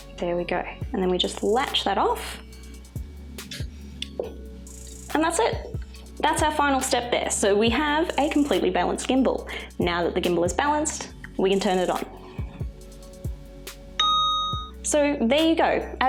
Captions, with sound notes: There we go, and then we just latch that off. And that's it, that's our final step there. So we have a completely balanced gimbal. Now that the gimbal is balanced, we can turn it on. (beeps) So there you go.